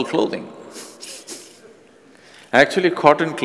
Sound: laughs

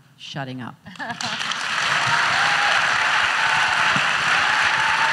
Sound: audience cheers

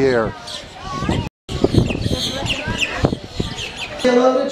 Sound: birds chirping

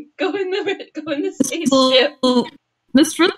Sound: through laughter; glitching

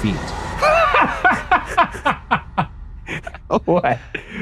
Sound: Shane laughing

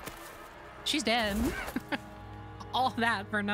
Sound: laugh

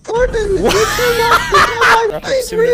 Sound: laughter

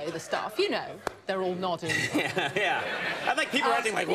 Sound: laughs

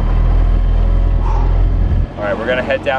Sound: exhaling

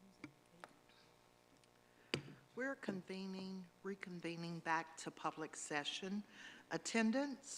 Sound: gavel

